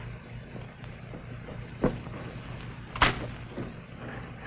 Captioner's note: footsteps thudding; car doors banging